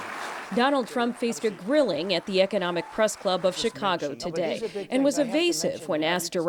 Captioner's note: applause